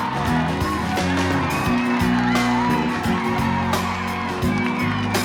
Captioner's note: clapping and cheering